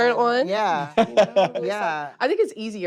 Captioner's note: laughs